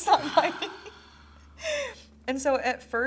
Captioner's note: sighs